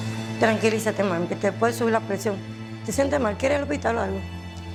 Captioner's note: speaking Spanish